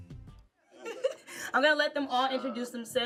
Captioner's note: laughing